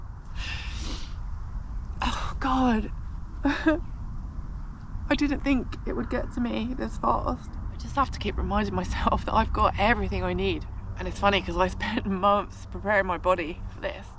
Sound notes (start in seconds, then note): 0.4 sniffling; 3.4 sob